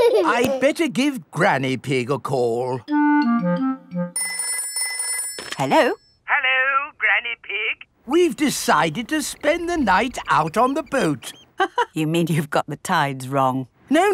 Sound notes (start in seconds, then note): 4.1 telephone ringing; 11.8 laughs